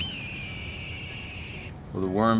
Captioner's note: bird screeching